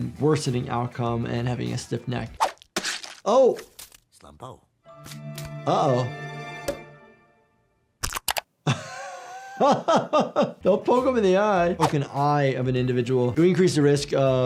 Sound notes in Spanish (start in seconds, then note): 8.6 risas